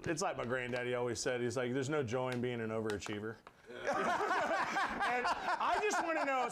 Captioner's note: laughter